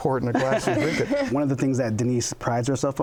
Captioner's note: laughter